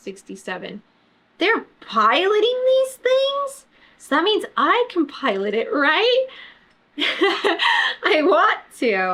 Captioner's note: laughs